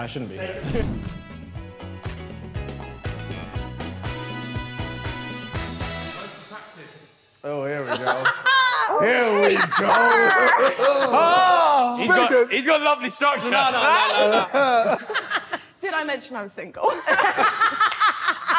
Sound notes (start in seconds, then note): 0.1 upbeat music; 9.2 women laughing; 13.2 Sidemen laughing; 16.8 women laughing